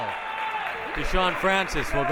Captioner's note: clapping